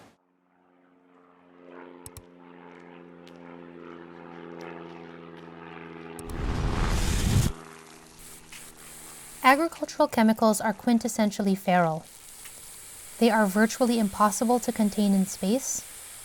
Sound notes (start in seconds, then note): 0.8 plane flies overhead; 2.1 mouse clicks; 2.3 plane flies overhead; 6.2 explosion whooshes; 6.7 mouse click; 8.2 air hisses